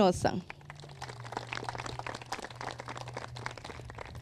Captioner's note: crowd claps